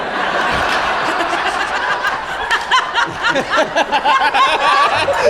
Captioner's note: audience laughs